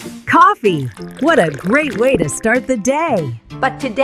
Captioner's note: 🤣Laughter & Coffee Pouring